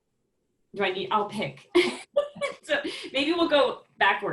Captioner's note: laughs